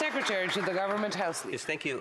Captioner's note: some Applause